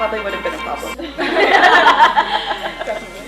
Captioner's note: laughs